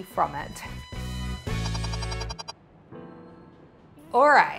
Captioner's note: upbeat music; digital tones beeping